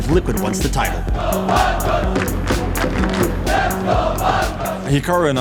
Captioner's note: crowd chanting, clapping rhythmically